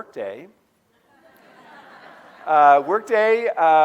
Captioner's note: audience laughing